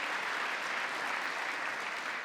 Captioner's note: applause